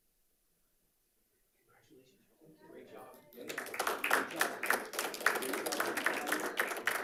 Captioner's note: panelists applauding